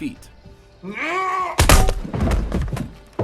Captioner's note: gun barrel clangs